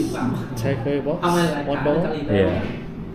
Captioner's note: speaking Vietnamese